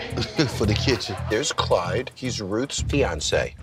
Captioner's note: laughs